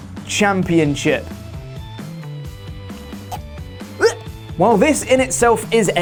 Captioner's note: retching sounds